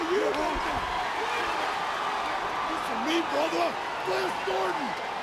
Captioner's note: crowd cheering